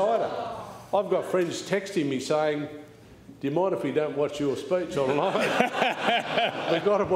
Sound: laughter

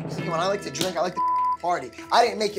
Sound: beep

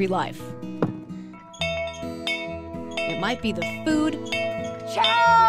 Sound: rings bell

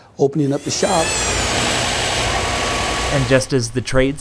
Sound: sawing wood, sanding wood, drilling wood

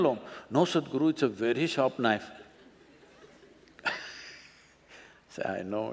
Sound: laughs

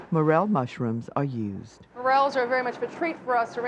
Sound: voiceover

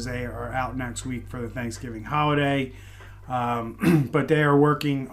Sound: light cough

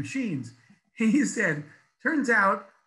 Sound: laughs

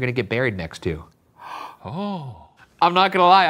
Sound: gasps

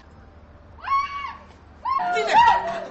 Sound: aphrodite screams

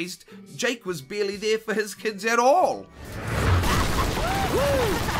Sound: crash; cheering and whooping

